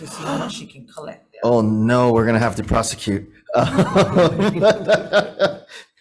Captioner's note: laughs